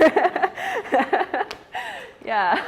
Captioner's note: laughs